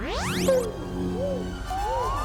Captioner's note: space Sounds